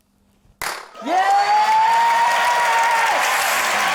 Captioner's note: pop!